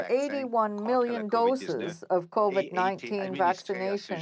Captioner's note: speaking french